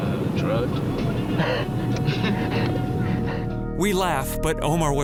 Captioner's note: both chuckling